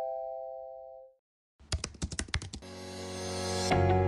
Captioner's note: typing